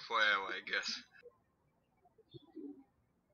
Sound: chuckling; birds chirping

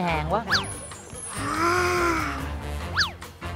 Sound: slurping

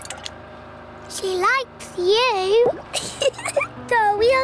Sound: giggles

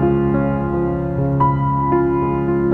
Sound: none

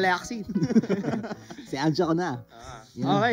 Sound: laughs

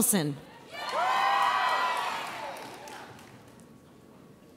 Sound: audience cheers

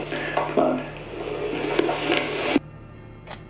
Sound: TV crackling; suspenseful music

